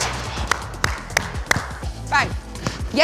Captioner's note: clapping